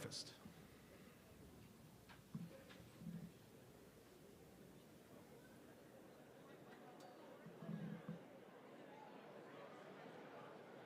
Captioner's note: group talking